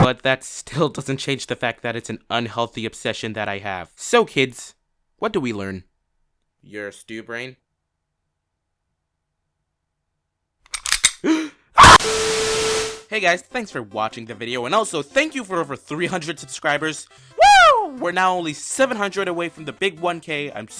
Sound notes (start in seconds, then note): 11.2 gasp